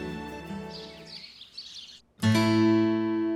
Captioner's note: birds chirping